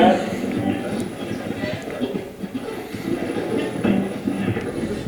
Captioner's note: radio channel changing